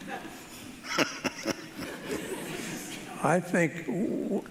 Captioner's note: panelists laughing